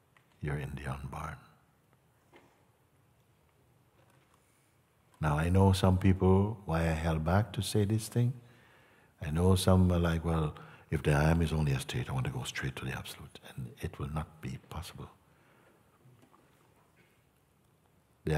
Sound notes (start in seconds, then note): none